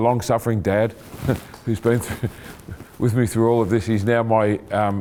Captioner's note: chuckling